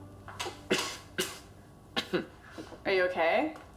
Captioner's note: choking